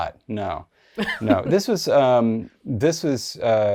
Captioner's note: laughs